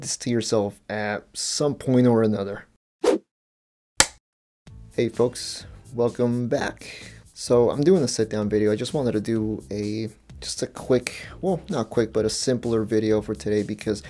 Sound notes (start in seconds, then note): 4.0 whoosh, film clapper sound